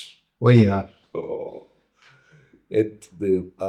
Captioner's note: groans